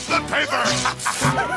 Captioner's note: Stingy rips the paper